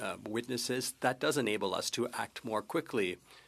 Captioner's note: speaking French